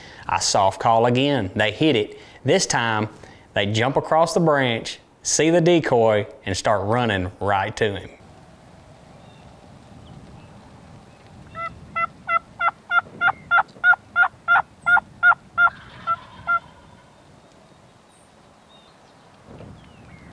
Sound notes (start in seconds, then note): 11.7 imitating clucking; 15.5 turkey gobbles